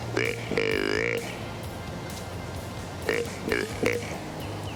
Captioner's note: animal calling